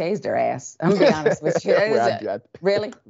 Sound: laugh

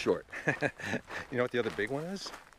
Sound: laughing

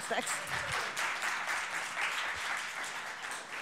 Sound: clapping

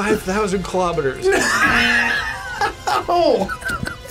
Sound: laughs

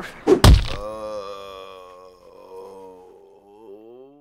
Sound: body hit and then groan

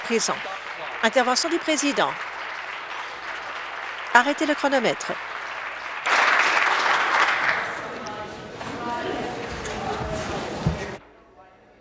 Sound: applause

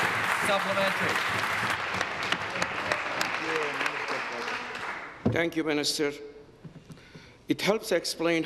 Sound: applause

